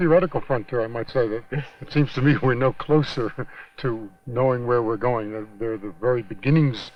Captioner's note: chuckles